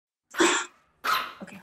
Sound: dogs barking

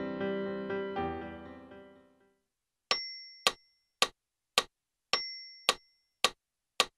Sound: metronome

